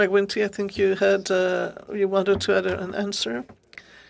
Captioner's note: speaking in French